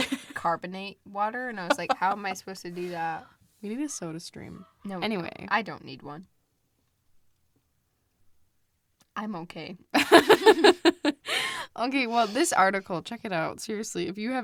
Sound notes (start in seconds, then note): 1.6 laughs; 10.0 both laugh